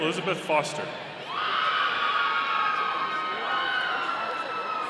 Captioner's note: audience cheering